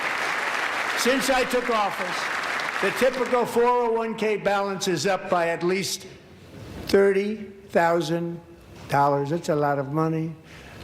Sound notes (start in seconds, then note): 3.4 applause